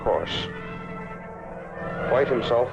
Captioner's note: plane whirring